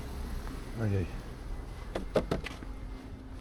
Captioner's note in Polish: dźwięk potrącenia pieszego lusterkiem